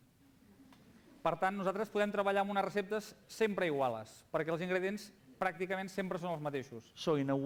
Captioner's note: non-english speech